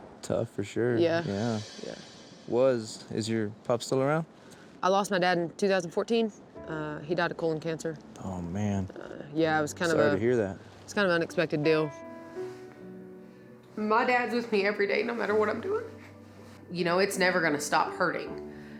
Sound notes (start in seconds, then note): 12.1 sad music; 13.8 tearfully